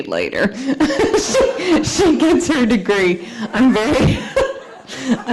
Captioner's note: nervous laughter